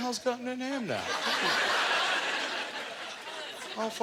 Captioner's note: audience laughter